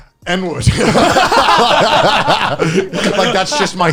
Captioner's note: laughs